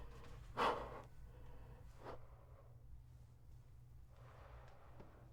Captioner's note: Clownface gasping